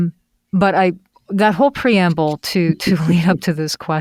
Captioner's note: laughs